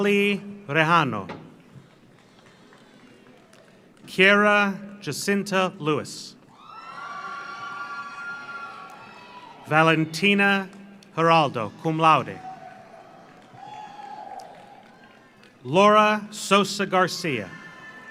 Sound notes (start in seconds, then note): 1.8 audience applauds; 6.5 audience cheers; 6.6 audience applauds; 11.4 audience cheers; 12.1 audience applauds; 17.2 audience cheers; 17.6 audience applauds